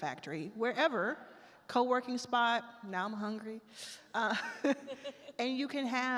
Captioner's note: laughs